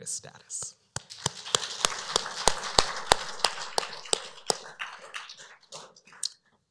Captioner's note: applause